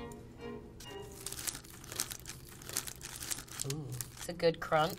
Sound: food crunching

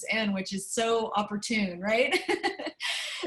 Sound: laughter

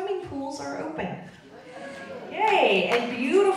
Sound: audience cheering

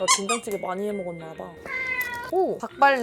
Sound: cat meowing

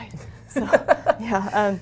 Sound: laughs

